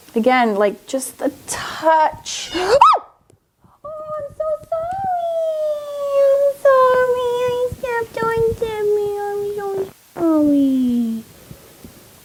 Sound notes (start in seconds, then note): 2.3 Tippy meows; 2.4 squeals